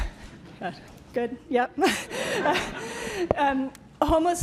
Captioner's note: laughter